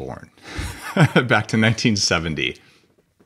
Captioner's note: laughing